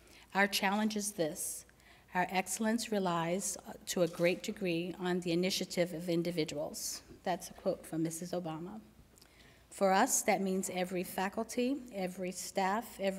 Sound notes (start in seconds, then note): none